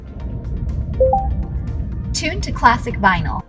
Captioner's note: vehicle beeping